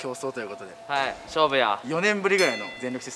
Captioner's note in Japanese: ゴングの音